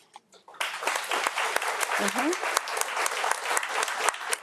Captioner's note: audience applauding